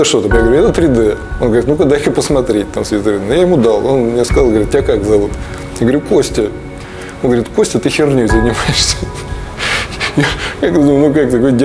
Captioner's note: laughs